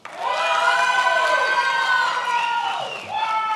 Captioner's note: many applauding